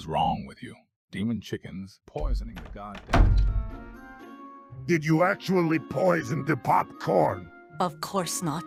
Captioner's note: door slams